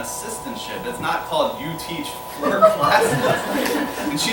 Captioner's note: laughter